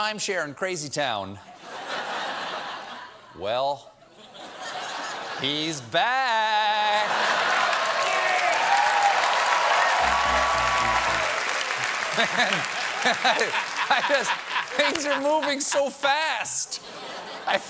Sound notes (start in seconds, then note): 7.2 cheers and applause; 7.3 laughter